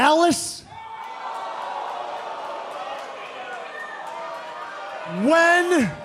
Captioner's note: crowd cheering